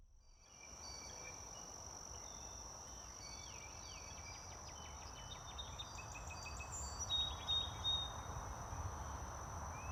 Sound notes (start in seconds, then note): 2.1 sounds of the woods